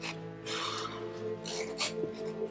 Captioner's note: exhales sharply